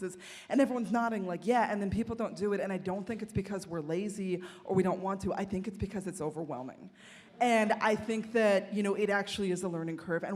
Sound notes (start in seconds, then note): none